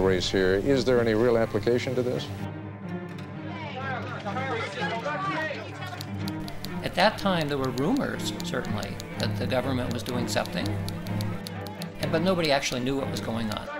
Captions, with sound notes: Is there any real application to this? [INDISTINCT CHATTER] At that time, there were rumors certainly that the government was doing something But nobody actually knew what was going on.